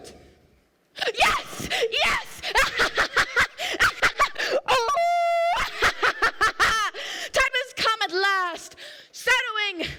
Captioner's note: laughing and howls